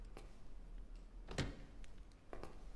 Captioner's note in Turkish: Kapı sesi